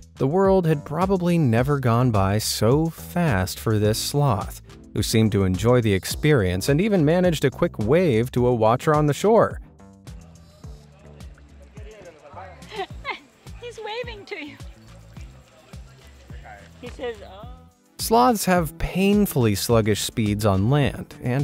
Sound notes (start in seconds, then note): 12.4 laughs